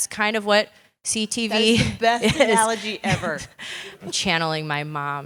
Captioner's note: laugh